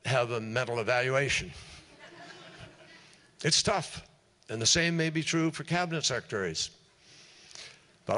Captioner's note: laughter